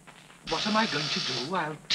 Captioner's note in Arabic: طنين